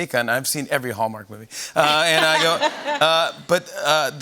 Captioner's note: laughter